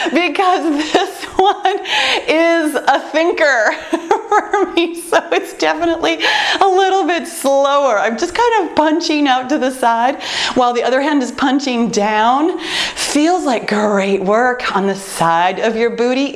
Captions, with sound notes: Because this one is a thinker. [laughs] It’s definitely a little bit slower, I’m just kind of punching out to the side, while the other hand is punching down. Feels like great work on the side of your booty,